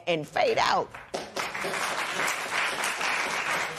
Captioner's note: applause